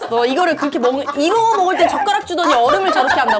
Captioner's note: startled